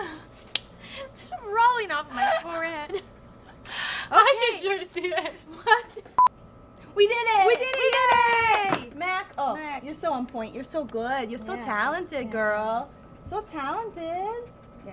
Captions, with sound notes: just rolling off of my forehead. - I can sure see it (laughing). We did it! - We did it! Yay! - Mac. Mac. - You're so on point, you're so good. You're so talented, girl, so talented.